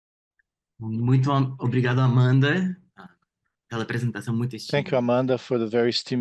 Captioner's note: speaking in Portuguese